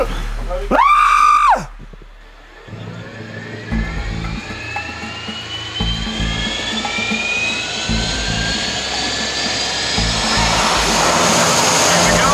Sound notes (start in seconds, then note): 0.6 screaming; 3.0 propeller sounding; 9.5 engine noise